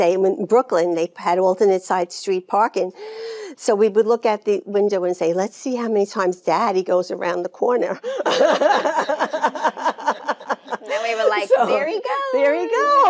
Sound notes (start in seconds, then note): 8.1 Jane laughing